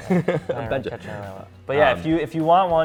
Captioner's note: laughs